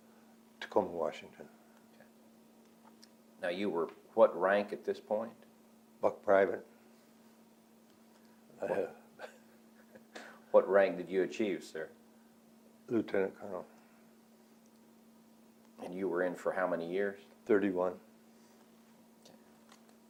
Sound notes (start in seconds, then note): 9.1 laughs